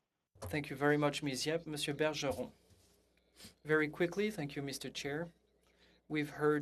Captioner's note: speaking French